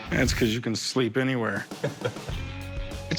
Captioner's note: laughs